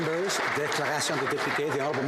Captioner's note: applause